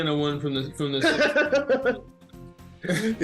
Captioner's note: laughs